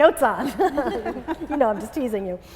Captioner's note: laughing